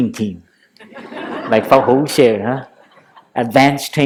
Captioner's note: laughter